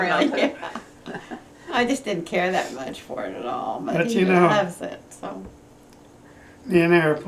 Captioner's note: laughter